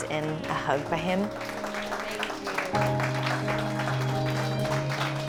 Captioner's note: applause